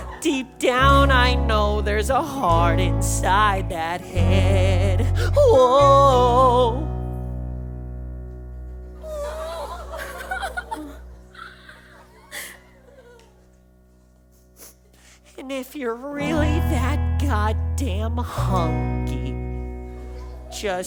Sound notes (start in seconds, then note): 9.0 audience awws, Craphole whimpers